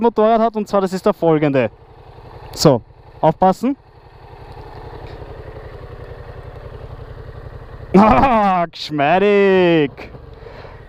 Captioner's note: laughter